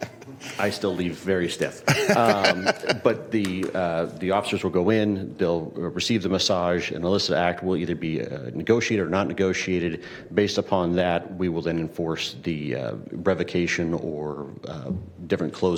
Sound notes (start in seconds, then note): 1.8 laughter